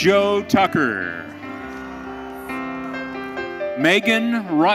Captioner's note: audience cheering